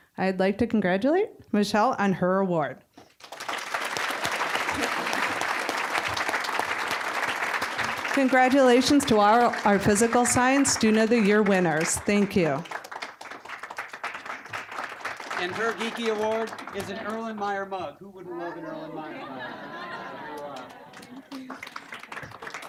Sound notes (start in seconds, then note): 3.5 applause; 13.7 applause; 18.1 audience laughing